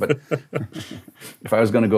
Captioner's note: host laughing